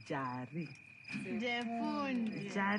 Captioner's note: in Shona